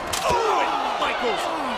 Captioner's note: Shawn groans